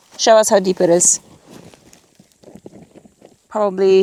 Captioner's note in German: Pfote kratzt